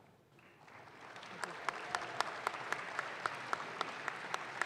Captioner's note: audience claps